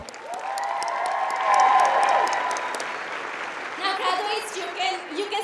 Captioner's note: applauding